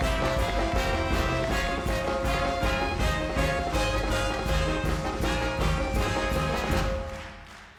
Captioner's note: audience clapping and cheering